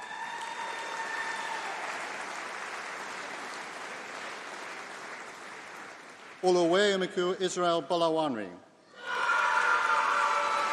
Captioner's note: applause